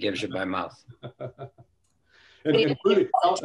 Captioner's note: laughter